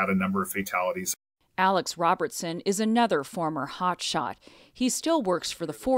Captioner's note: voice-over